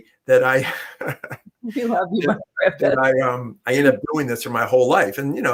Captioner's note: laughter